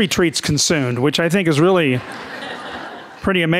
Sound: audience laughing

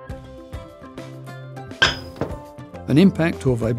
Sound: hammer hit sound effect

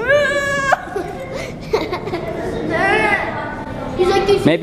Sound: yelling

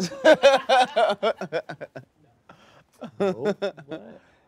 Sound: laughing

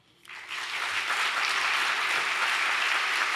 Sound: applause

